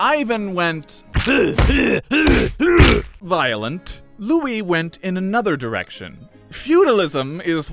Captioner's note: Ivan grunts, beating his son to death